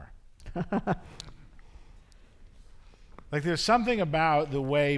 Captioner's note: chuckles